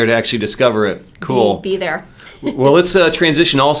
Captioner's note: laughs